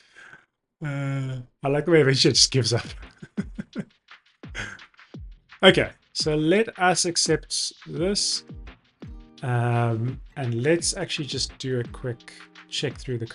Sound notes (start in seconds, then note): 3.0 laughs